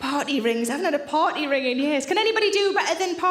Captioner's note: none